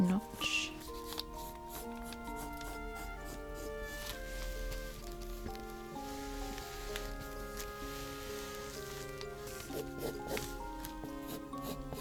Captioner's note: pencil scratches